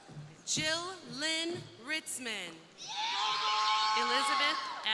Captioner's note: crowd cheering